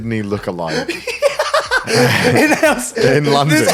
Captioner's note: laughing